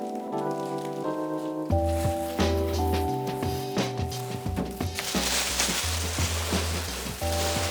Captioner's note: door opening, crinkly plastic